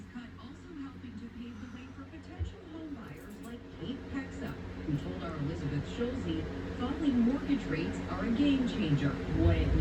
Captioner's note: "Entertainment Tonight" plays in background